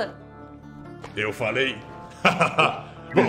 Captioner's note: laughs